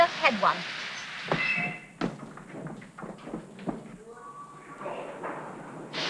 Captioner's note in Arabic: صراخ توقف القطار